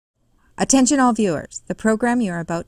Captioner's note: voiceover